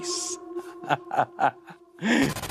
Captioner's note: laughs